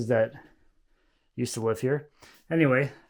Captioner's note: none